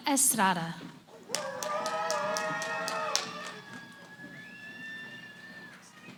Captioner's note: cheering